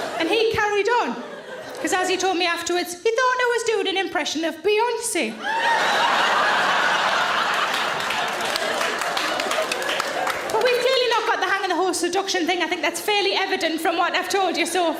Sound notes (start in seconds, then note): 5.4 loud laughter and applause